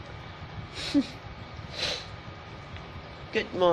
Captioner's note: chuckles